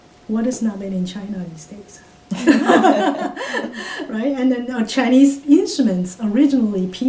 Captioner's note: all laugh